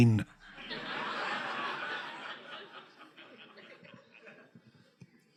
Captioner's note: audience laughing